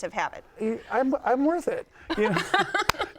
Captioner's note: laughs